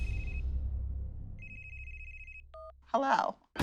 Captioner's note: phone rings; phone beeps